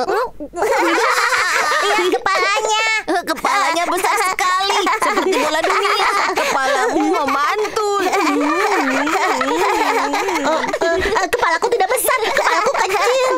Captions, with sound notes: (laughs loudly) - Look at your head. - It's so huge like a globe or something. You're like a basketball. (laughs loudly) - Nah-uh, it's regular size.